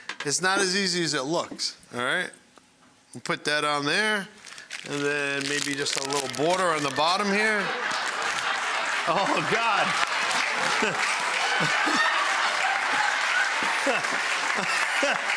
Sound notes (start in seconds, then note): 7.3 audience laughing; 9.0 laughs; 10.4 audience laughing and applauding